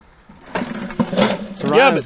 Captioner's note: tools clanking